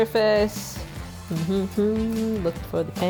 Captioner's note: humming